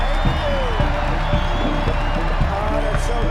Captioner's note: crowd cheering